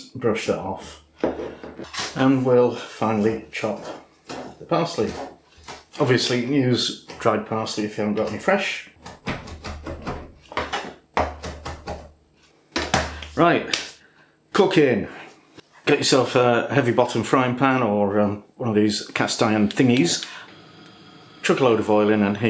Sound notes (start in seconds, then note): 9.0 chopchopchopchopchopchop